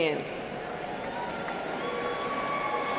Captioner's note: applause